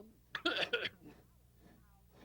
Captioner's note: coughing